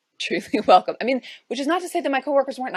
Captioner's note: chuckles